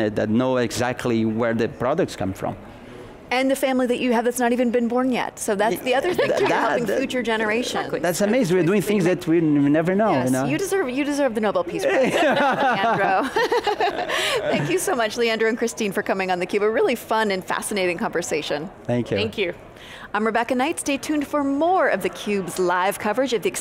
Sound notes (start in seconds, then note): 11.8 all laughing